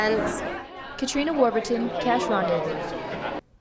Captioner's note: crowds talking